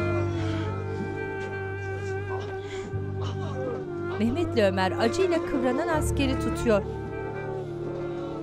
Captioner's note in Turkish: İnleme sesleri